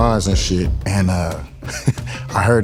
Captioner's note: chuckles